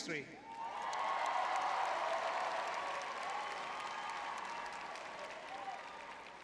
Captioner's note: crowd cheering